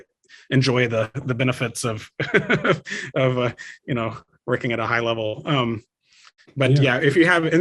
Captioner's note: laughs